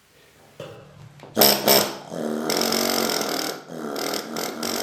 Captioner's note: brief loud roar, then faint roar